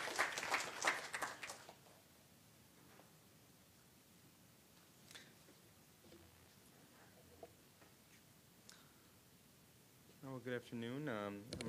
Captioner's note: applause